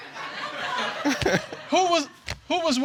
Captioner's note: all laughing